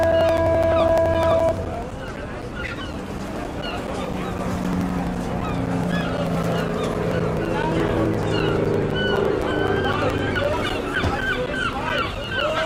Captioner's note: siren